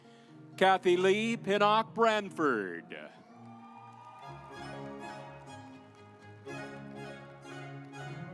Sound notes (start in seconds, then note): 3.2 audience applauds; 5.1 stately music